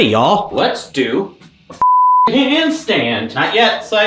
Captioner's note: beep